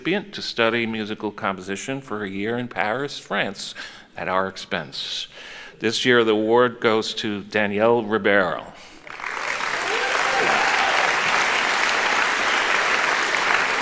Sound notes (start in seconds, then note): 9.0 applauding; 9.1 cheering